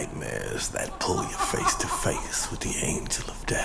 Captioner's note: laughing